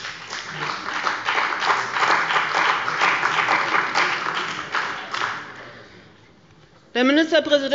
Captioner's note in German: Beifall bei dem BÜNDNIS 90/DIE GRÜNEN und Abgeordneten der CDU